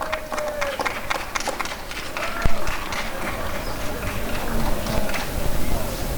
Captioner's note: applause and cheering